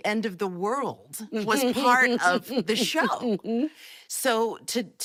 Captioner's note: laughing